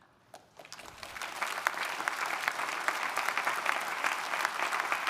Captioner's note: audience applauding